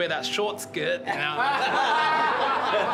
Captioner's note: laughter